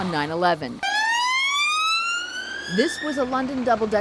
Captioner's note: siren blaring